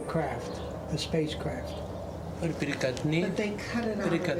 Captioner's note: 说外语; speaking Foreign Language